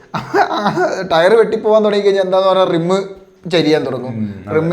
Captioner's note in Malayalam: തൊണ്ട ശരിയാക്കുന്നു